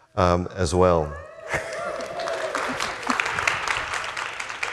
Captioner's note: audience applauding